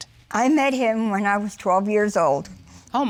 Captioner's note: none